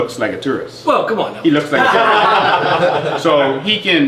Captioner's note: others laugh